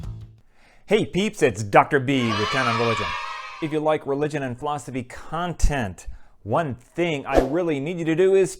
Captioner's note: kids cheering